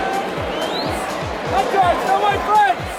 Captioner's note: spectator whistles